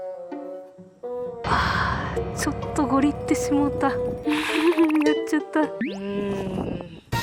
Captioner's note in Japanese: ため息